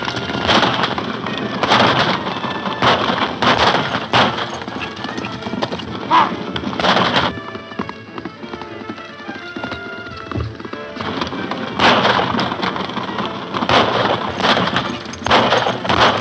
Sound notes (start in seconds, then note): 7.7 hooves clopping; 10.8 guns firing